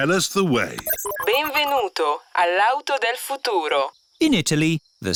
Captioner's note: chuckles; beeps; speaks italian